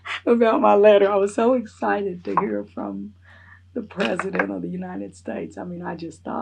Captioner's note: laughs